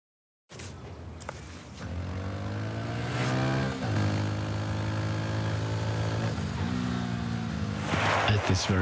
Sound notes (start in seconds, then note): 1.8 motorcycle engine revving; 7.3 tires screeching